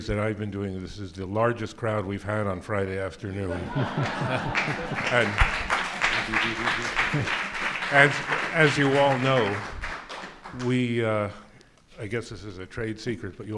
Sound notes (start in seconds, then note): 3.5 laughing; 4.0 applauding